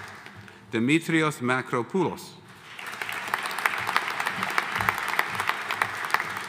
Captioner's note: audience applauding